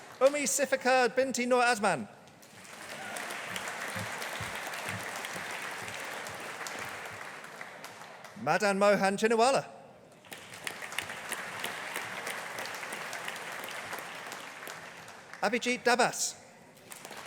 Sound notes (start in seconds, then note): 2.4 audience applauding; 10.2 audience applauding